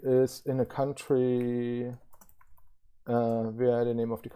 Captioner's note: keyboard clicking